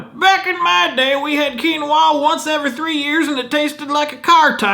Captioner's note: loud elder, cowboy-ish accent